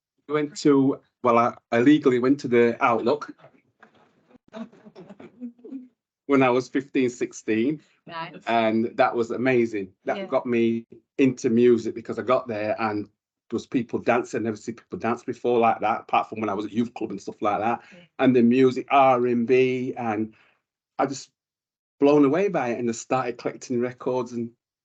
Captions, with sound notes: We went to well... illegally went to the Outlook [Audience and panel laughs] When I was 15 - 16. and that was amazing that got me into music because I got there, and there was people dancing and I'd never seen people dance before like that, apart from when I was at youth club and stuff like that. And the music, RNB and I just... blown away by it and started collecting records and...